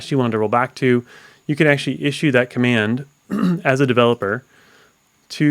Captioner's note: coughs